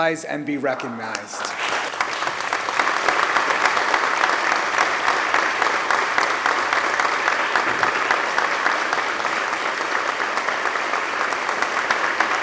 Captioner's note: applause